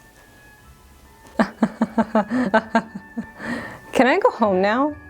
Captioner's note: laughs